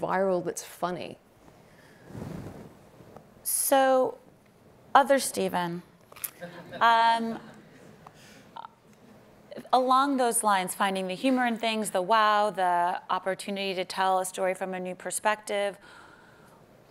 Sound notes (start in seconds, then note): 5.9 laughing